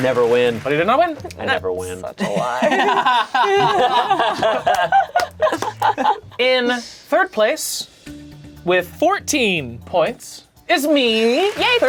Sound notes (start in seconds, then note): 2.1 laughing